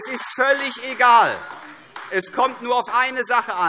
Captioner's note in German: Beifall AfD - Zuruf: Das glaube ich nicht!